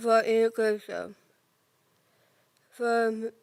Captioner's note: soft breathing